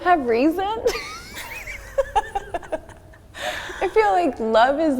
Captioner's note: both laughing